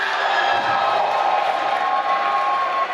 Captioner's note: applause